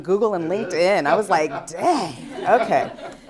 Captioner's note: laughter